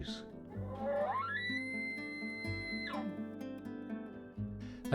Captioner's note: bull Elk Bugles